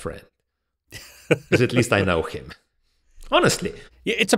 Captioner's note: laughs